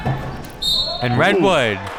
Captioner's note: whistle